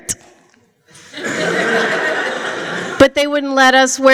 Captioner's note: laughter